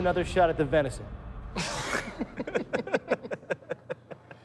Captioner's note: laughter